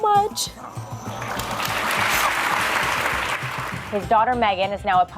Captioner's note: applause